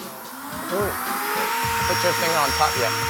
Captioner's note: whirring